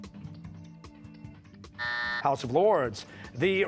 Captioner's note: buzzer